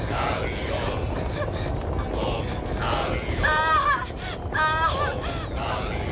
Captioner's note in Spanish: grita